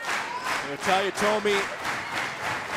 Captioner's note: clapping